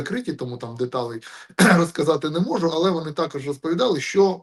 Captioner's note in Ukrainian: прочищення горла